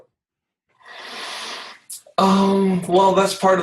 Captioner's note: inhales deeply